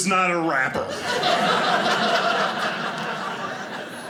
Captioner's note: audience laughing